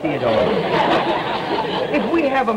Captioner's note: audience laughter